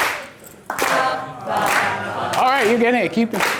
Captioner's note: voiceover